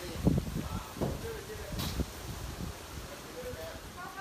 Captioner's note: group chatter